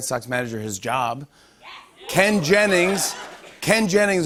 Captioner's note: cheering and applause